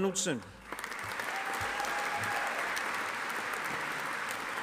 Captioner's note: audience applauding